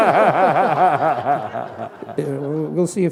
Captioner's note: laughter